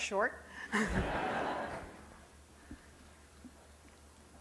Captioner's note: laughing